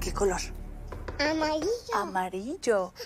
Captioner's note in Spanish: Toques en la puerta